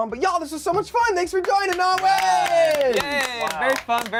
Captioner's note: group applauds